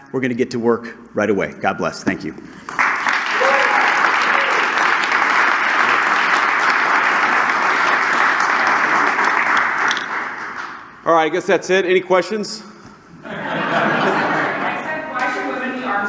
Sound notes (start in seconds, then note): 2.6 applause; 13.2 laughter